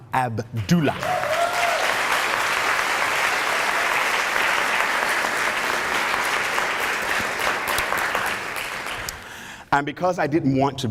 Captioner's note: applause